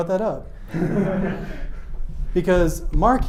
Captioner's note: audience laughs